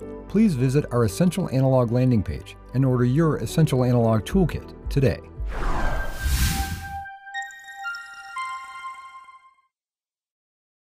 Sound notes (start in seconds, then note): 5.4 swish